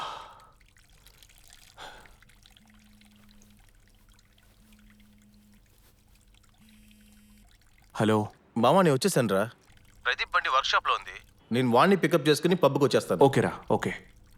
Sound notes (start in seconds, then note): 2.4 phone vibrates